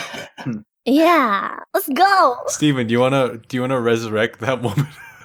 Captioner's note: more snickering